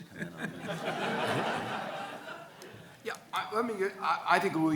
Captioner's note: audience laughing